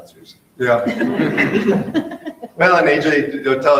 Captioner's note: group laughing